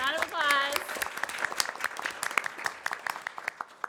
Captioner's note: applause